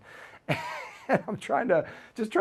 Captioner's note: laughing